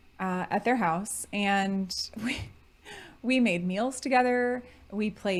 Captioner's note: chuckling